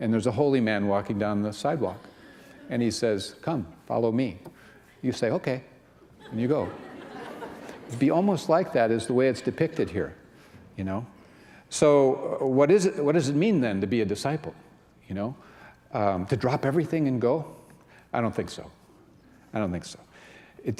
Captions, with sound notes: And there's a holy man walking down the sidewalk, and he says, "Come, follow me." You say, "Okay." And you go. [laughter] It'd be almost like that is the way it's depicted here. You know? So what does it mean, then, to be a disciple? You know? To drop everything and go? I don't think so. I don't think so.